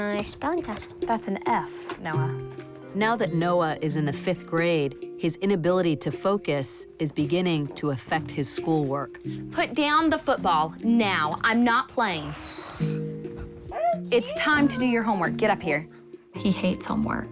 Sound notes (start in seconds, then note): 12.2 exhales deeply; 12.7 whines